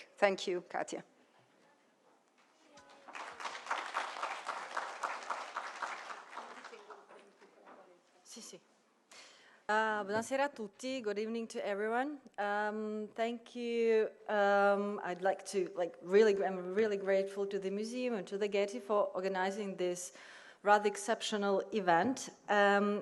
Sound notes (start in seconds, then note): 2.8 applause; 10.1 non-english speech